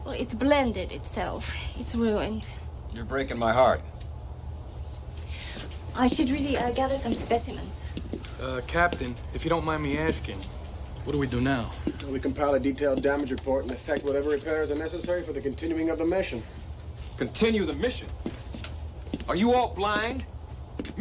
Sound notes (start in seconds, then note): none